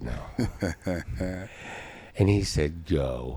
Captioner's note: laughing